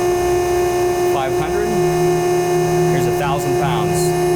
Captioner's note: machine whirring